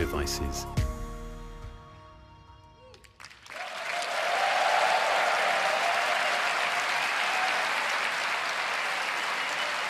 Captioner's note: cheers and applause